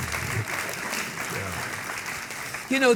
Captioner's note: audience clapping